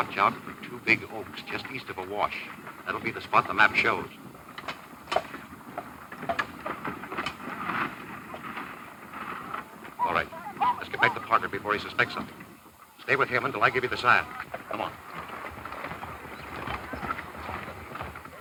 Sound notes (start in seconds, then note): 5.4 hooves clopping